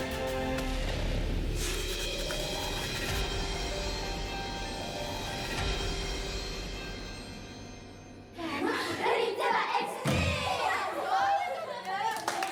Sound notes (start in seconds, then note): 2.0 dramatic music; 5.8 speaking foreign language; 9.6 clapping